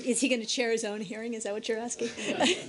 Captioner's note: laughter